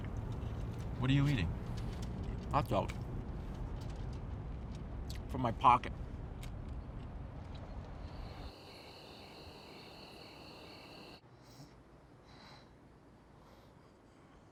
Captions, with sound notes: What are you eating? - Hotdog from my pocket. (insects chirping)